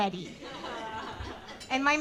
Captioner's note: audience laughing